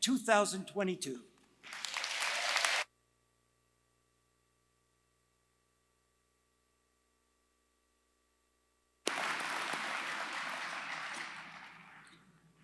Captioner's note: applause